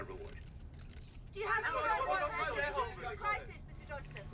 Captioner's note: reporters clamoring